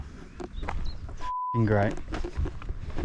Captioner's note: beep